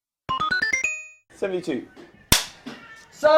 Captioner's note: clap